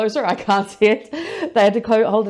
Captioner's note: laughs